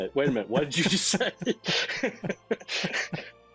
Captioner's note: chuckling